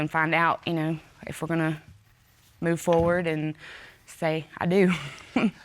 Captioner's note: laughs